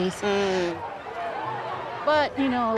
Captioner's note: crowd chanting